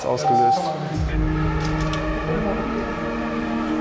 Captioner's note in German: Vielfache Einsatzsirenen